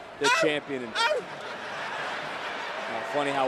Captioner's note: barks; crowd laughs